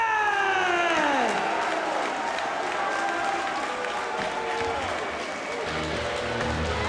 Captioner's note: applause